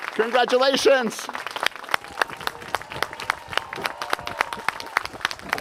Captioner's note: applause